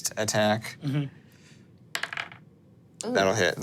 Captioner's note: dice rolling